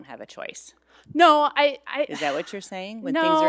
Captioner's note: sighs